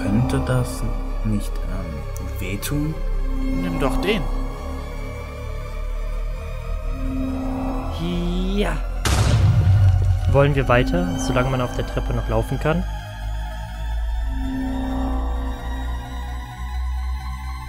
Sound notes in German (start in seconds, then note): 9.0 Explosion